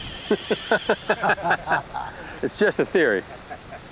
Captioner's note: laughs